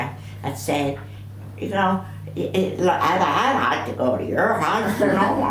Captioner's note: imitating American accent